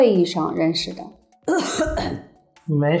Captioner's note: coughing